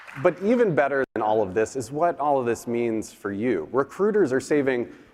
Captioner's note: applause